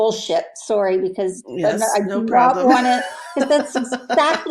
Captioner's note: laughs